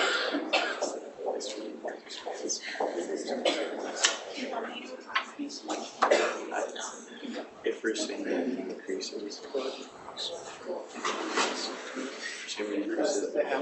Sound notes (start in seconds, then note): 7.5 chatting